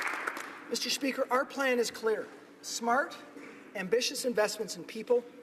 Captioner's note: applause